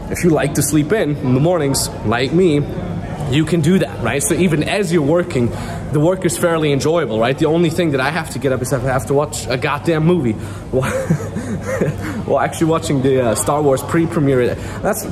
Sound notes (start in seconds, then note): 10.7 chuckling